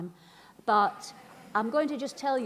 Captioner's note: laughing